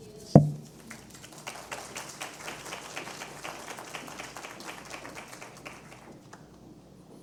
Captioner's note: applause